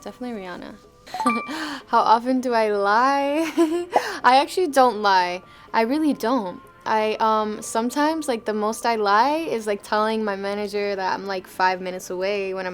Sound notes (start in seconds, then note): 1.1 bell chiming; 3.4 laughing